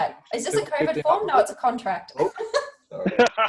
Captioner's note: laughs